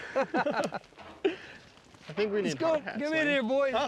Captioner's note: everyone laughing